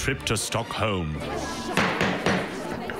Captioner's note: gavel hitting base